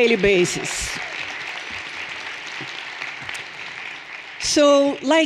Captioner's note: everyone applauding